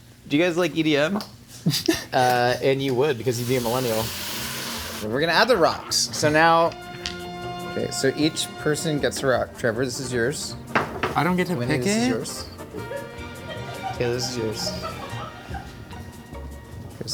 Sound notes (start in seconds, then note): 1.6 laughing; 3.2 oil sizzling; 6.7 whimsical music; 10.8 rock thuds; 12.7 crew member laughing